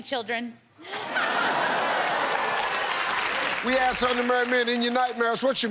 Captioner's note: laughter